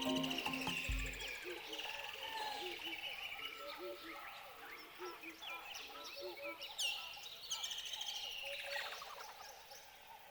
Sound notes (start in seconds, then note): 0.0 sounds of birds chirping in the trees